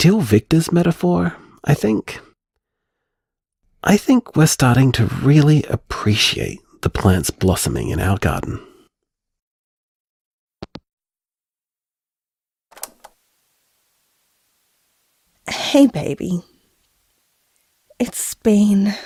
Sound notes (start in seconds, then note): 10.5 hangup; 12.8 cassette Noise